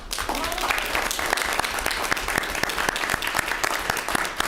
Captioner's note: clapping